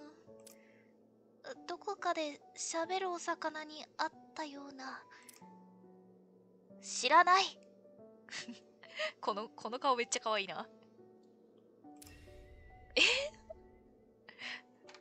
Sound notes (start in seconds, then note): 10.8 laughs; 13.0 laughs